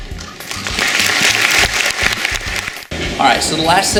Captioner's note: applause